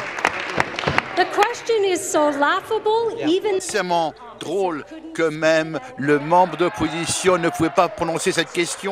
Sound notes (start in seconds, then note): 0.0 applause